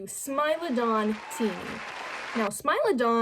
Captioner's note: crowd cheers and claps